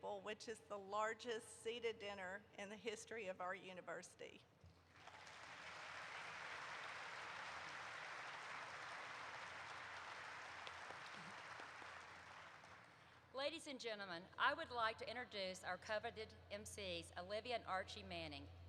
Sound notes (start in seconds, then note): 4.9 applause erupts